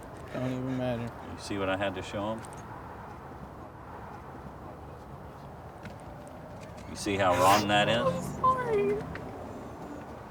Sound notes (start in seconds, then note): 7.3 sniffling